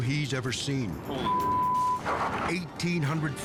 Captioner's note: beep